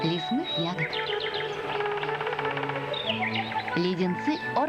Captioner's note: relaxing music; woodpecker beak knocking